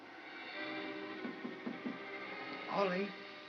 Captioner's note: tapping on box